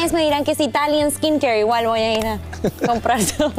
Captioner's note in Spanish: risas